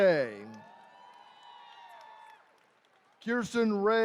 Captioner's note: attendees cheering